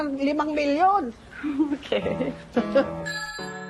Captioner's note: chuckling